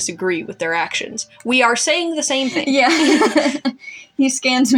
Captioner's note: laugh; chuckle